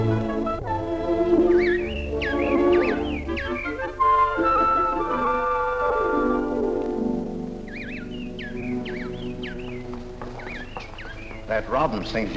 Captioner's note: A Robin singing in a tree